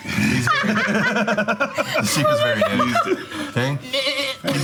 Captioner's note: group laughing